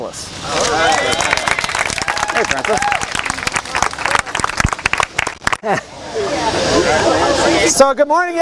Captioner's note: applause